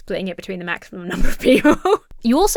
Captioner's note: laughs